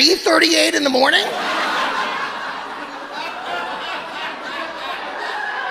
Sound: audience laughing

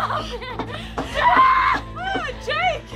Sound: cries out

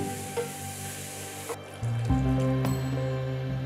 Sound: liquid pouring

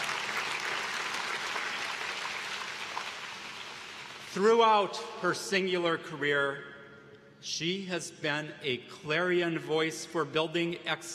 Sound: applause

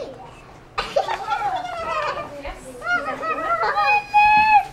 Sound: giggles

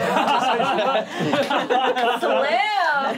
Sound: laughing

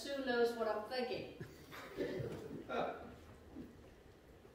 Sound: laughter

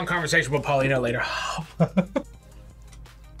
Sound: exhales; laughs

